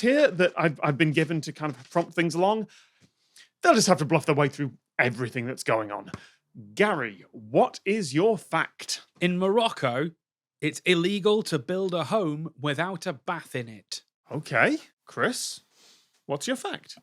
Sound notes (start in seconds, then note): none